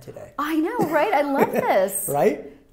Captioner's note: chuckles